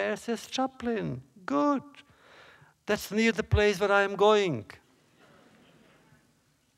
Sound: laughter

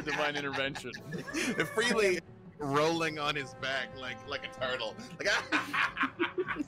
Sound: laughing

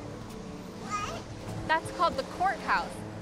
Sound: babbles

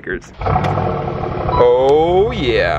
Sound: engine revving

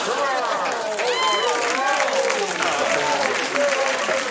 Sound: crowd applause

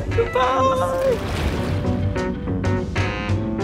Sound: water sploshing; tranquil music continues

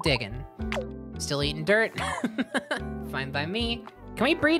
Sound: laughing

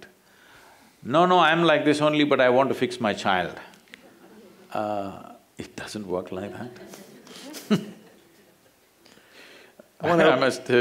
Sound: few laugh; laughter

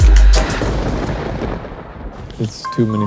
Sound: thunder clapping

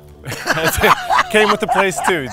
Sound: laughs

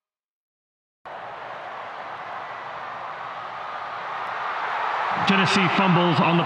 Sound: crowd cheering

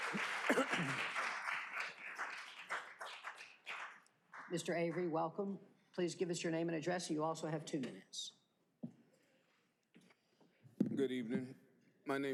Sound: applause

